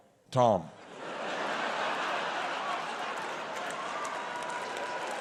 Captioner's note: audience laughs